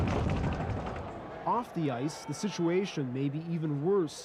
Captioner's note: boards rattle